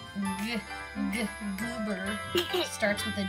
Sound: laughing

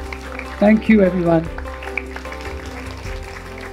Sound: applause

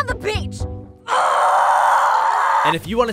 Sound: grumbles angrily

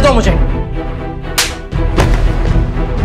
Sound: slaps

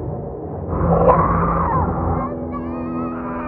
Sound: echoing

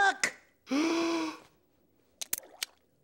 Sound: gasping

